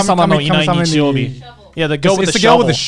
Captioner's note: both mumbling